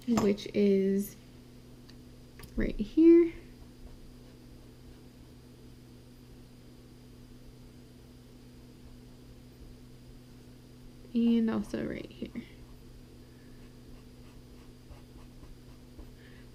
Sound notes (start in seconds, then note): 13.9 pen scratching